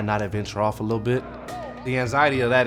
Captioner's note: group chattering